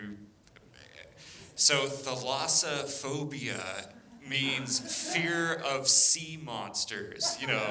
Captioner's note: laughter